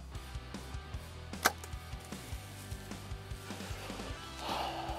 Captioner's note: arrow shot